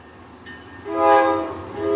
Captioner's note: hoooornn